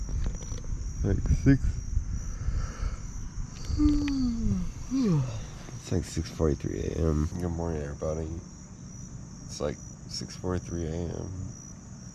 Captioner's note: yawn